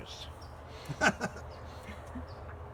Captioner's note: laughter